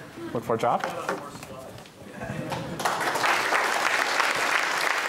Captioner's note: applause